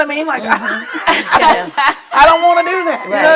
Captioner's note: laughter and murmurs of agreement